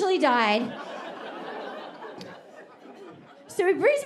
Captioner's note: audience laughing